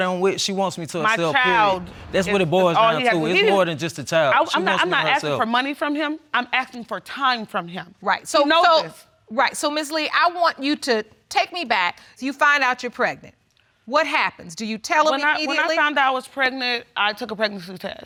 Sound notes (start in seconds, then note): none